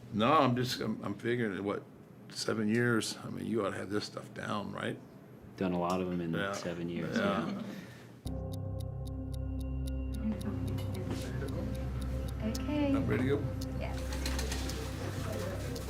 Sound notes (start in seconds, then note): 8.2 clock ticking; 8.2 tense music; 15.5 staff chattering; 15.5 tense music